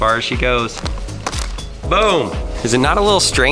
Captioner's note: hose smacking